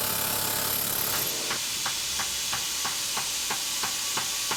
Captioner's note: hammering, drilling